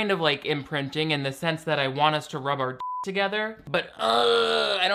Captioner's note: beep